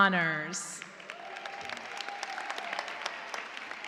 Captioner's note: cheers and applause